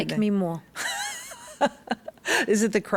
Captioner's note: laughs